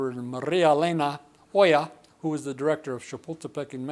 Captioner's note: speaking foreign language